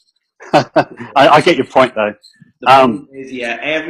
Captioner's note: laughs